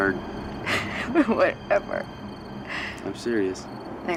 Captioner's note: chuckles